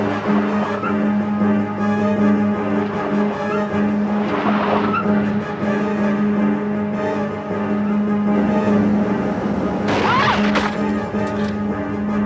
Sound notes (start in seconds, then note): 2.7 dramatic music; 8.1 tires squealing